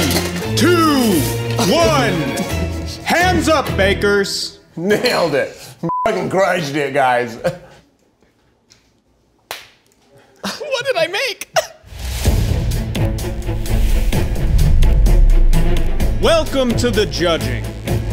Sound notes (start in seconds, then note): 5.6 beeping; 9.5 hands slapping together; 12.5 upbeat invigorating music